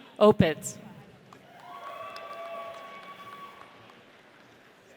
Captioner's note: audience cheers